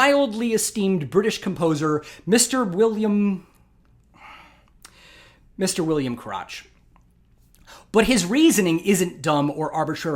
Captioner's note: sigh